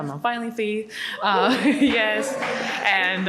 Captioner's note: audience cheers